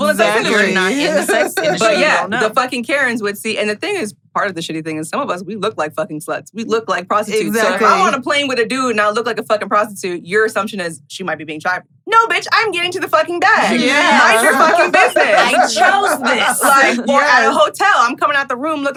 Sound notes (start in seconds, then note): 0.5 laughs; 13.8 laughs